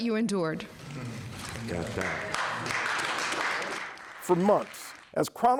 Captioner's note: audience applauding